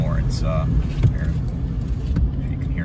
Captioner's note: window rolling up